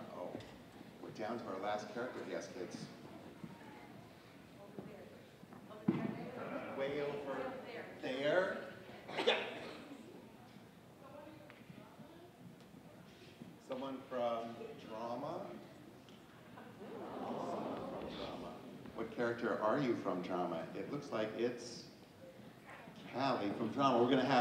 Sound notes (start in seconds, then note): 16.7 audience ooh-ing